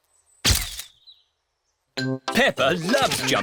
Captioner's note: camera clicks